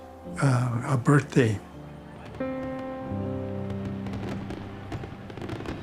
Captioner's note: fireworks in background